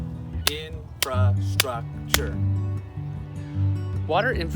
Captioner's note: hands clapping